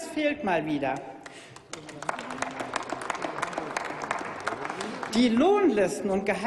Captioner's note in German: Applaus